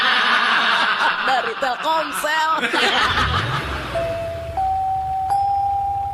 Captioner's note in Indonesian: tertawa